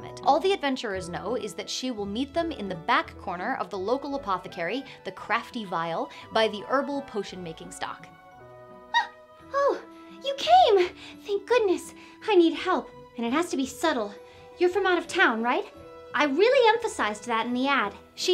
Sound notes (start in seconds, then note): 8.9 gasps